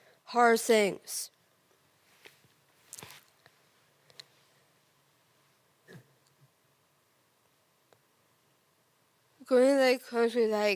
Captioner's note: rustling materials